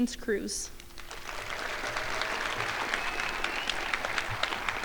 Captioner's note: crowd applauding